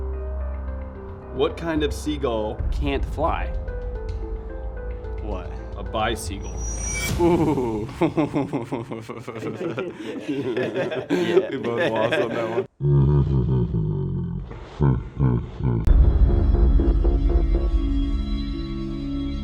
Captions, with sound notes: - What kind of seagull can't fly? - What? - A bicycle. Ooh (laughing). - We both lost on that one. (laughs in slow motion) (angry bass music)